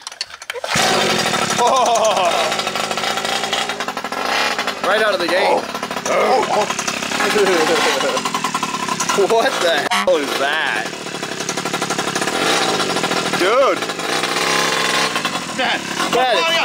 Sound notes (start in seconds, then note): 0.2 engine roars; 5.8 mimics engine sound; 7.2 engine squeaks; 9.9 beep